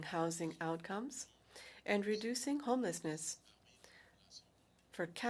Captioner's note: speaking French